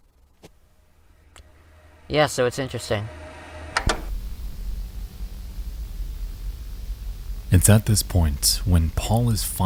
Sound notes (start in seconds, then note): 3.8 clicking sound